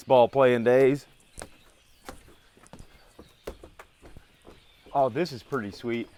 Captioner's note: birds chirping; stairs creaking